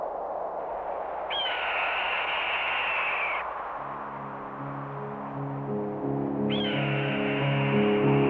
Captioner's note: bird of prey screeching